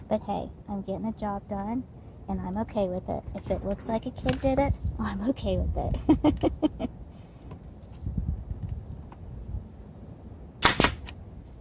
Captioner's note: laughter